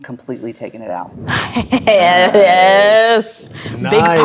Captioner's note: laughing